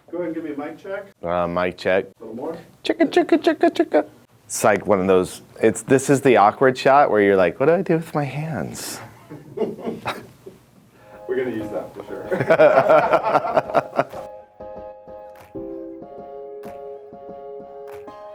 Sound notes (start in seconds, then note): 9.4 cameraman laughing; 12.2 both laughing; 14.7 upbeat music